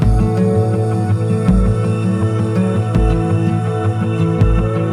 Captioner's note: humming vocalization